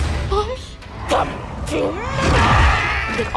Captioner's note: in demonic voice